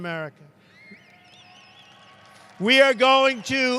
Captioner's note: applause